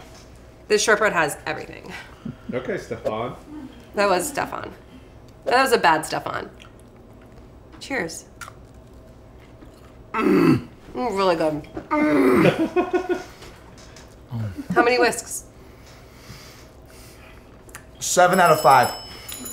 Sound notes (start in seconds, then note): 11.9 moans; 12.0 laughs; 18.0 dinging